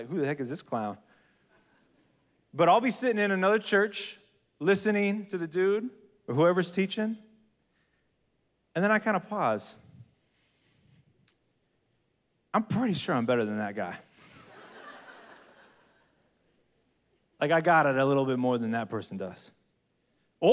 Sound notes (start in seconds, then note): 14.2 congregation laughs